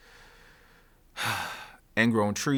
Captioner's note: heavy sigh